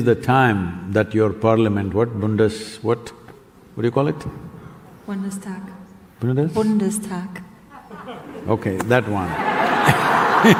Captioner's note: laughs